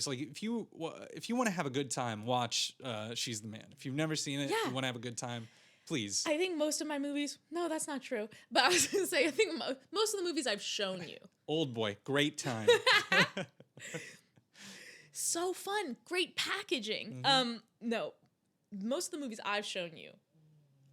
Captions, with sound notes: If you wanna have a good time, watch She's the Man. If you've never seen it, if you wanna have a good time, please. I think most of my movies, no, that's not true, but I was gonna say, I think most of the movies I've shown you. Oldboy, great time. (laughing) So fun, great packaging. No, most of the movies I've shown you